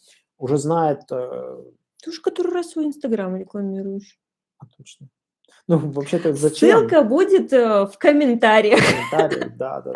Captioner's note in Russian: смеются